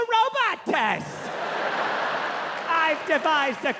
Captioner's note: audience laughing